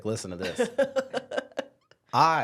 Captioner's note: laughs